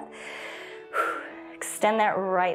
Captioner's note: inhales and exhales